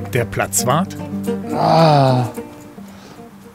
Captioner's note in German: Genervtes Stöhnen